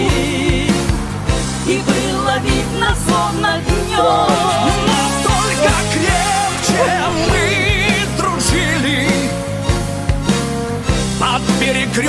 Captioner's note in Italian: Applauso